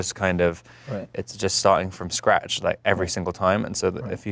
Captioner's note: none